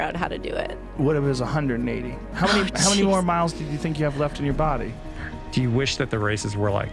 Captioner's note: laughter